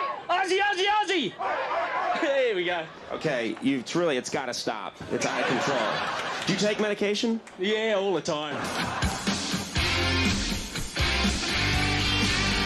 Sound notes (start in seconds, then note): 0.0 crowd; 8.6 energetic music